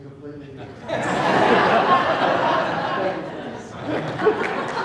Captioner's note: laughing